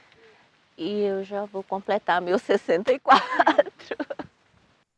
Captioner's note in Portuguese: risos